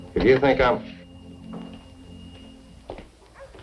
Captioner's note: footsteps